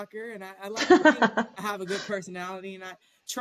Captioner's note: laughter